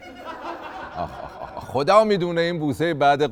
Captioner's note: laughter